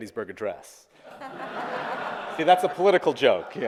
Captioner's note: audience applauding